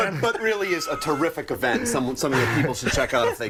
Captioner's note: laughter